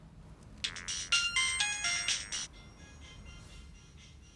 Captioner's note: ringtone playing